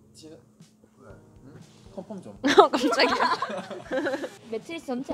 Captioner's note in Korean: 웃음